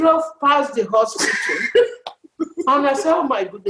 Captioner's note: laughs